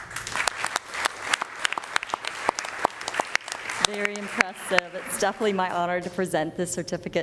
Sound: applause

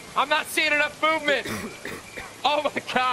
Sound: cough cough cough

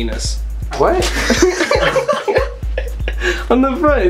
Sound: laughter

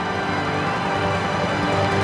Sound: cheering

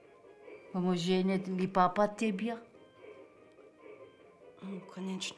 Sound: speaking in a foreign language

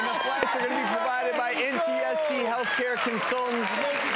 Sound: audience cheers and clapping

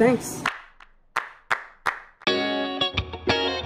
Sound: hands clapping

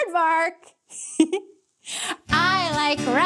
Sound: chuckles

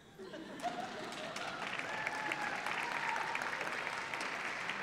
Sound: laughter and applause

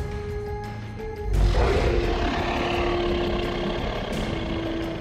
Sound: dinosaur roaring; intense music

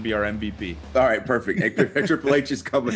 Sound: laugh

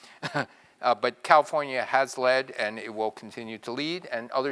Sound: laugh

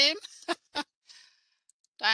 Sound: chuckles

